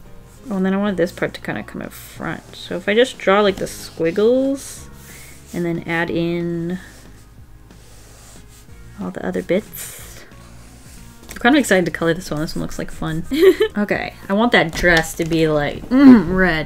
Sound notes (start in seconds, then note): 13.3 laughs